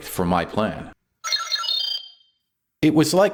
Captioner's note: robot chirping!